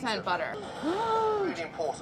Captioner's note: gasps